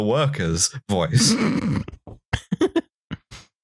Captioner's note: snorts